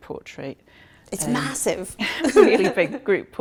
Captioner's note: laughing